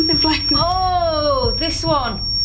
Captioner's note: loud beeping